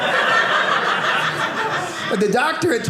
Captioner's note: audience laughing